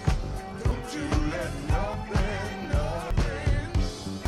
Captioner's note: none